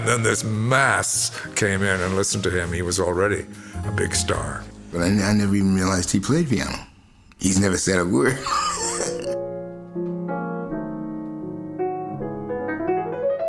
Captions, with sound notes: and then this mass came in and listened to him. He was already a big star. - I never even realized he played piano. He's never said a word. (laughs) (elegant piano music)